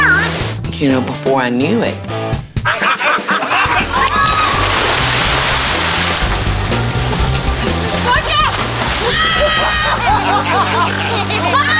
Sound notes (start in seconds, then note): 4.0 water splashing; 9.1 group laughing